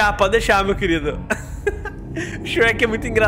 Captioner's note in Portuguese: Risos